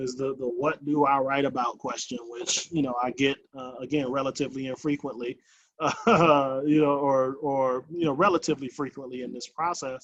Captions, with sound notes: is the what do I write about question which you know, I get, again, relatively and frequently. (laughs) You know, or relatively frequently in this process.